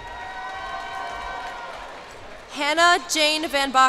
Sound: cheers and applause

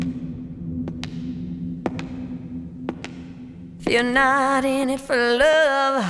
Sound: footsteps thudding

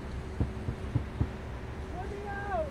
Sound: banging

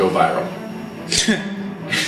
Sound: laughs

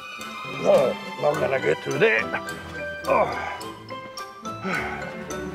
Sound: grunts

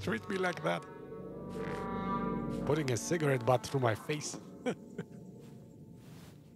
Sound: laughs

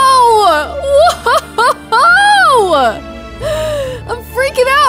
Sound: laughs

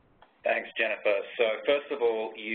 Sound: voiceover

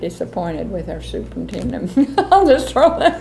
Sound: laughs

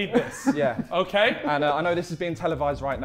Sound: Sidemen laughing

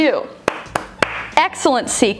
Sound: claps

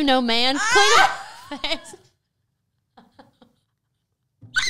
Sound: both laughing

